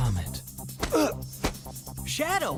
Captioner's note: Shadow grunts